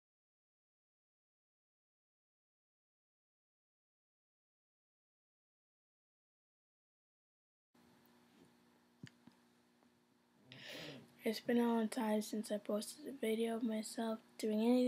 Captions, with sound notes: (Deep Breath) It's been a long time since I posted a video of myself